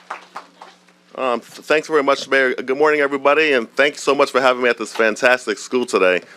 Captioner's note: applause